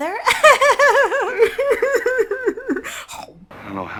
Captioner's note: cries